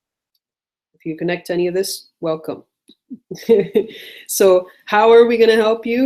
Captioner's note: laughs